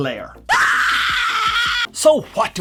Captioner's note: scream